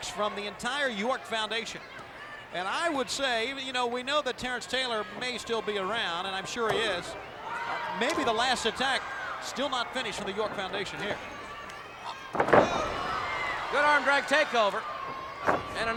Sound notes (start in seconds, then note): 7.2 blows thudding; 12.0 body thudding; 15.0 body thudding